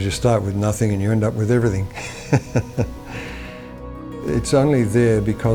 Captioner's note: laughs